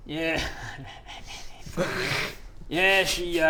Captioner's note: very mature snickering